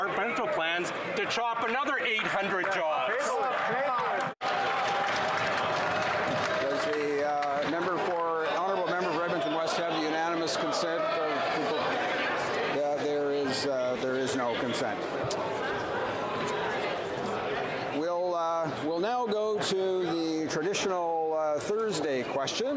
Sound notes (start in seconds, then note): 7.6 some Applause